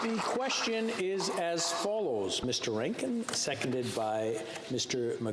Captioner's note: some Applause